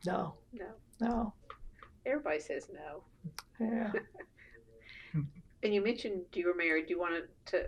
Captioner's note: laughter